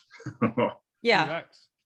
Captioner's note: laughing